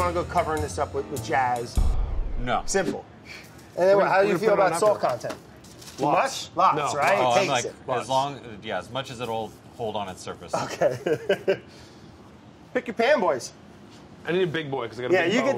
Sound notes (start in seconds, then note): 10.5 laughs